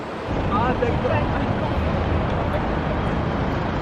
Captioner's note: light traffic